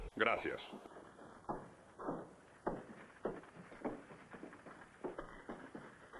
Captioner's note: carriages rattling in distance